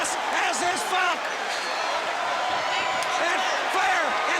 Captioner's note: crowd chatter